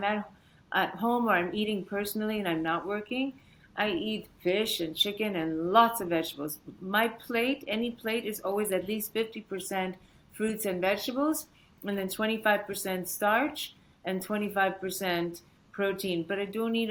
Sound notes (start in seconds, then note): none